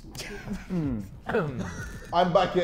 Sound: Sidemen laughing

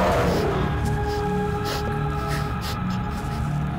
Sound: victim gasping; suspenseful music

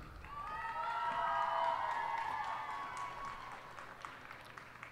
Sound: cheers and applause

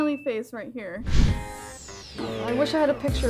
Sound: screen swoosh

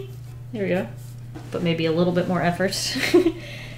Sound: giggles

